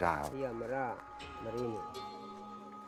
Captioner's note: speaking Indonesian